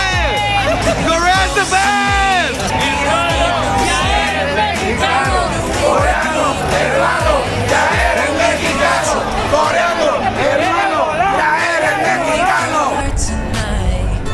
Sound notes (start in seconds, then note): 3.3 5.1 Surround Sound Train Horn